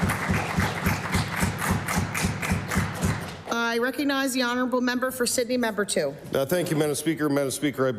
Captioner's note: applause